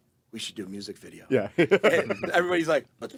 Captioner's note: laughs